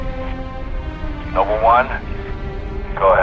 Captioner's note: radio; radio